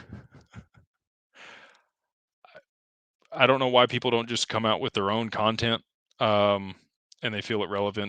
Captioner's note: laughter